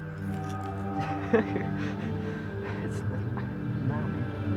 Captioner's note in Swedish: skratt